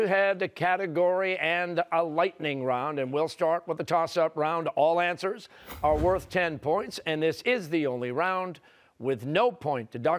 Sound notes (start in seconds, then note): none